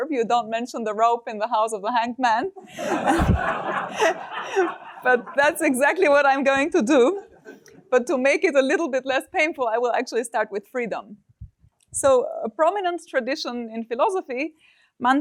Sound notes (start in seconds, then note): 2.6 laughter